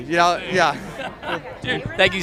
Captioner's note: laughing